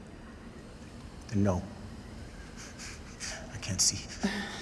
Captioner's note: chuckles